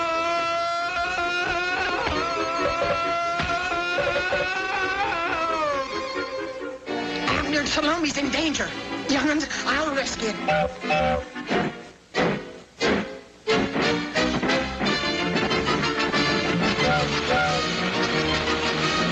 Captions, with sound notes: - Abner and Salomi's in danger! Younguns, I'll rescue ya! (pipe tooting) (train engine chugging) (frenzied music)